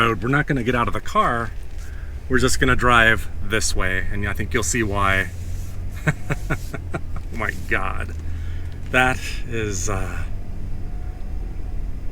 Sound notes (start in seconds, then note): 5.9 laughter